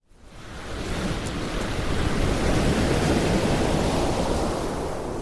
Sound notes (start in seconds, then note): 0.4 waves crashing